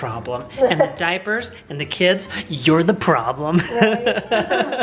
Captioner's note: laughs